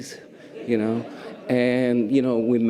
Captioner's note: audience laughter